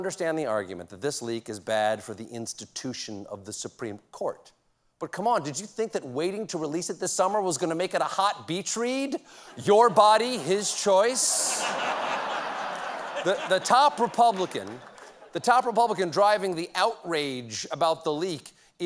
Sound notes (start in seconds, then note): 9.7 laughter